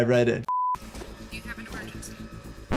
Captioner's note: quick beep